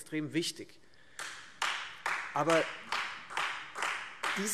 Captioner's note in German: Beifall Freie Demokraten